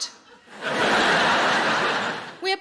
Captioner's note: audience laughing